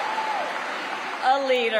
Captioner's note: cheering; applause